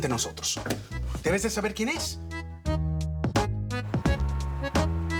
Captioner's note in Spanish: Ruido en la puerta